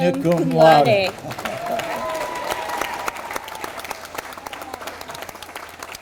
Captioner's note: audience applauding